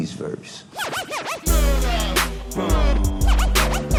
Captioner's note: recording scratching